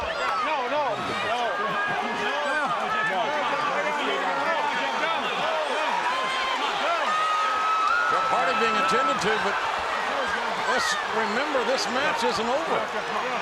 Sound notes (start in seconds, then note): 0.0 group chattering; 8.0 audience chattering